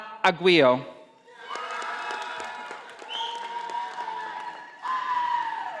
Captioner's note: audience applauding